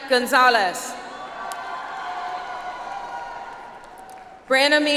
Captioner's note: audience applauds